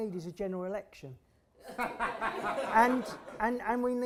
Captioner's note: laughter